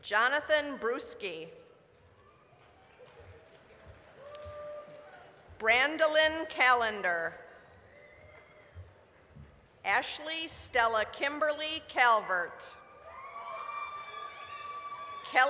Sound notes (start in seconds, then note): 2.1 applause; 8.6 applause; 13.0 applause, cheering